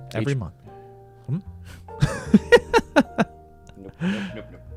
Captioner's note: laughs